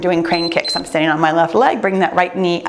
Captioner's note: timer beeps